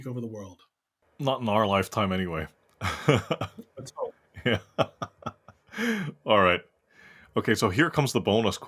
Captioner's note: laugh